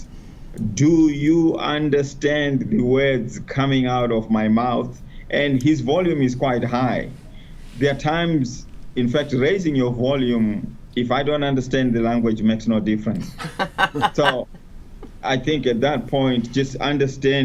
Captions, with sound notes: do you understand the words coming out of my mouth? And his volume is quite high. There are times, in fact, raising your volume, if I don't understand the language, makes no difference. (laughter) So I think that point, just understanding